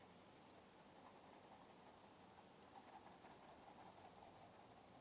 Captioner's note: crayon scratches